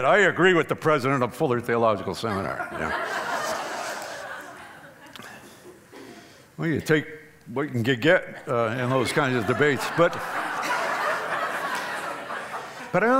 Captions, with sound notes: I agree with the President of Fuller Theological Seminary. [audience laughing] We take what we can get in those kind of debates. [laughing]